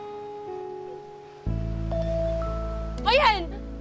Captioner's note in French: phone rings